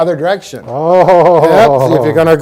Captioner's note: laughs